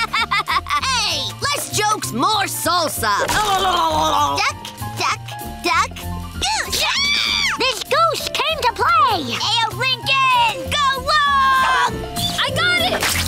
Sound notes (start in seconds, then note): 6.7 screaming